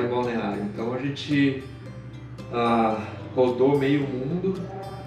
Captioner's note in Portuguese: ahhh